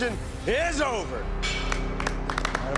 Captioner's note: applause